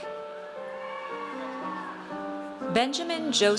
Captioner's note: audience cheers